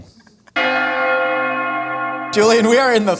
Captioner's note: bells Ringing